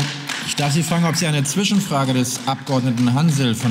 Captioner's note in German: Beifall